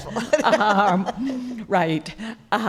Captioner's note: laughing